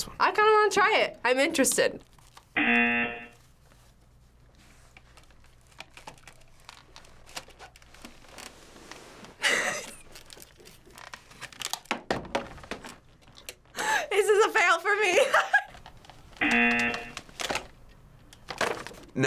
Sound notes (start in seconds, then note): 2.6 buzzer; 9.4 laughing; 16.4 buzzer